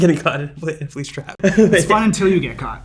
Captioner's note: laughs